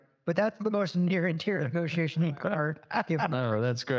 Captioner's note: laugh